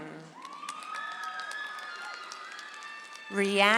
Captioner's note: audience applauds